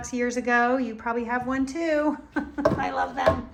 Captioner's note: laughs